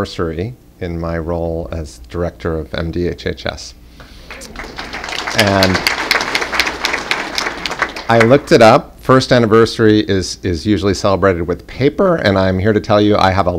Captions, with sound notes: FIRST ANNIVERSARY IN MY ROLE AS DIRECTOR OF MDHHS. [APPLAUSE] I LOOKED IT UP FIRST ANNIVERSARY IS USUALLY CELEBRATED WITH PAPER AND I'M HERE TO TELL YOU I HAVE